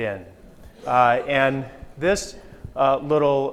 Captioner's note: audience laughs